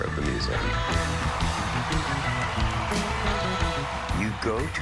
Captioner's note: cheering and applause